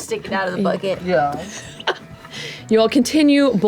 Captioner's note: laughs